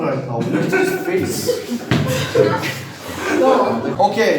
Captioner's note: laughing